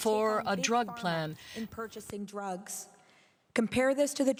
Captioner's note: speaking French